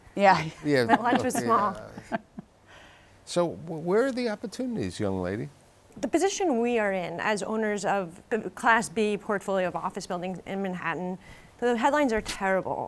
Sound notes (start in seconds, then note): 0.7 laughing